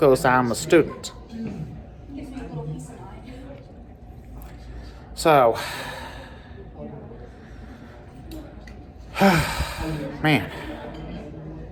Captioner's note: students chattering